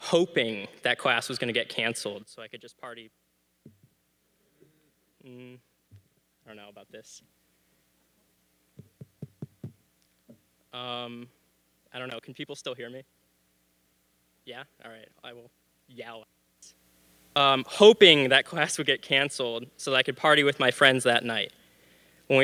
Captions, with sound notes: hoping that class was gonna get canceled so I could just party. I don't know about this. (mic tapping) I don't know, can people still hear me? Yeah, all right. I will yell it. Hoping that class would get canceled so that I could party with my friends that night.